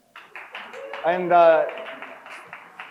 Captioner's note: crowd cheers